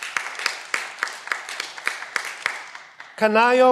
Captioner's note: cheering